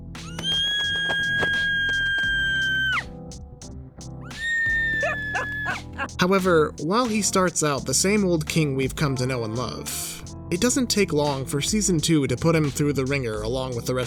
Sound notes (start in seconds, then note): 0.2 squealing; 4.3 screeches; 4.8 laughing